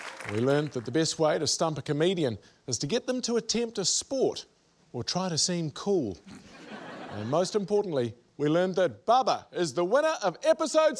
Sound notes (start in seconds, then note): 6.3 laughter